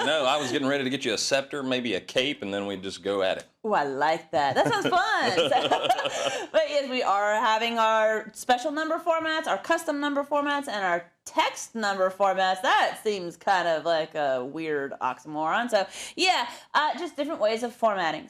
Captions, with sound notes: regal right now [LAUGH]. -I know I was getting ready to get you a scepter, maybe a cape and we'd just go at it. -Wooh, I like that, that sounds fun. -[LAUGH] -[LAUGH] Right, and we are having our special number formats, our custom number formats, and our text number format, that seems kinda like a weird oxymoron. So, yeah, just different ways of formatting.